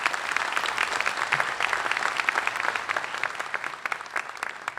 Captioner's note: applause